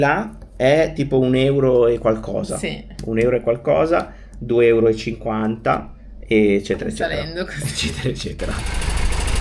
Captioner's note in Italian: risate